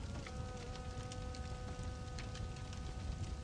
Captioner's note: ambient Campfire Crackling